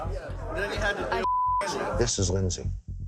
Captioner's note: beep